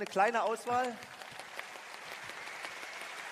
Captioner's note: applause